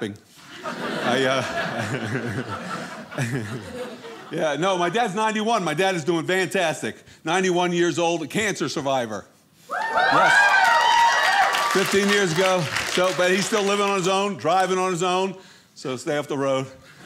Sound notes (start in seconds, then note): 0.4 audience laughing; 9.8 audience applauding